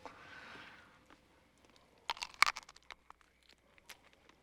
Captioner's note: crunching